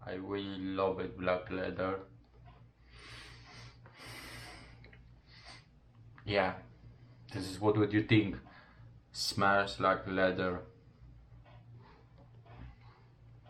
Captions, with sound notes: I really love it, black leather. (sniffing) Yeah, this is what you think smells like leather.